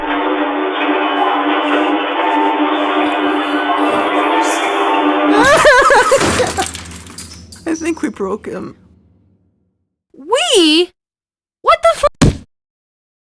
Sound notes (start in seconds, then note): 3.6 whispers; 5.2 terrified whimper; 12.2 slam